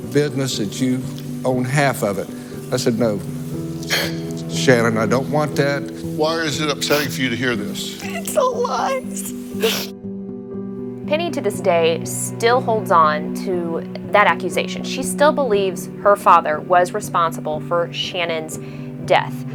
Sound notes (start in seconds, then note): 3.4 cries; 9.5 sniffles